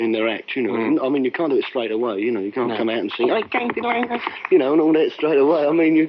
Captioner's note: slaps leg